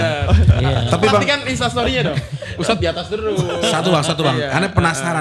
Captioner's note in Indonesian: tertawa